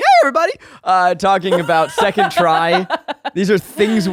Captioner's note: laughing